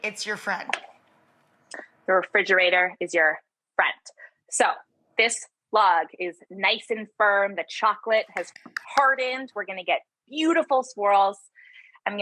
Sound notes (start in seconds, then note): 8.3 claps